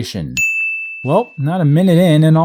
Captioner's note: ding